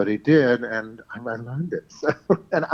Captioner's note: laughs